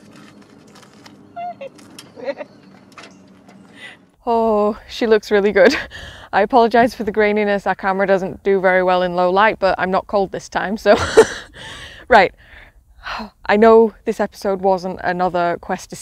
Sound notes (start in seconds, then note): 2.1 excited Giggles